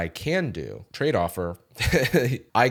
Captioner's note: laughs